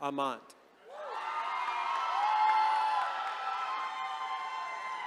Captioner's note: attendees cheering